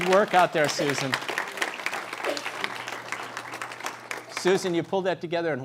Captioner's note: applause